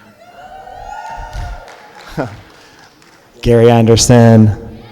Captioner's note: cheering